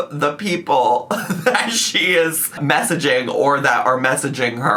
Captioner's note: laughs